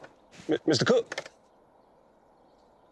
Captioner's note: stuttering